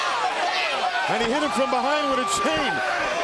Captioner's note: crowd chatter